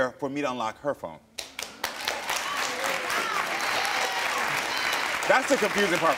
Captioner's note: audience applauding and cheering